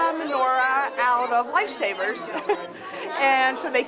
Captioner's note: laughs